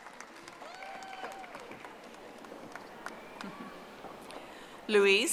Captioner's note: audience applauding